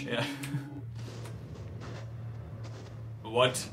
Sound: sounds of heavy footsteps getting closer

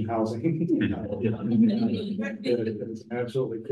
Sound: audience laughs

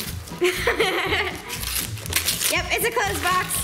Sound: laughing

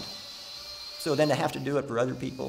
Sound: drill whirring

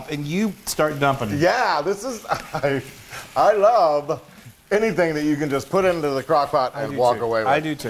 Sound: laugh

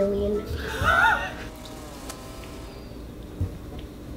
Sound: laughs

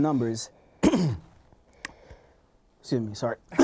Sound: coughing

